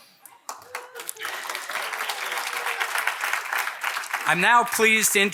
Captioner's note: audience applauding